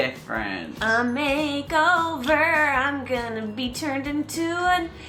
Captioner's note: sing-song voice